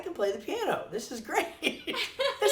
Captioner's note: laughs